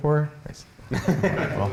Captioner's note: laughter